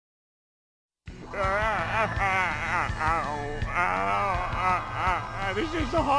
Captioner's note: moans